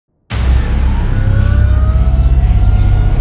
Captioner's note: sirens